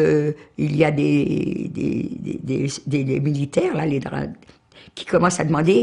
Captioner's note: foreign language